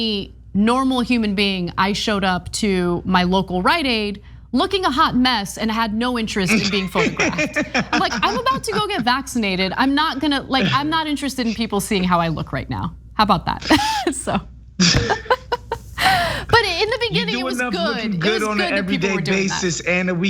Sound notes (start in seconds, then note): 6.4 laugh; 14.8 laugh